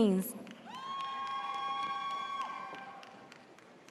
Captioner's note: audience cheers